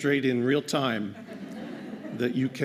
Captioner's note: laughter